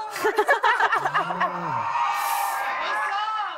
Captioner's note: laughter